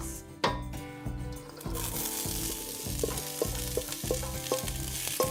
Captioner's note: cast-iron pan sizzling